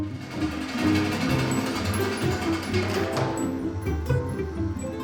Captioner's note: machine whirring